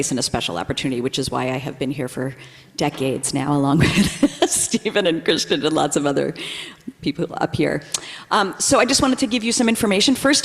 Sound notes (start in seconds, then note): 3.5 laughs